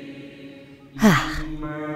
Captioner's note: sighs delightedly in German